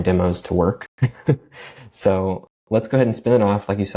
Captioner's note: laughs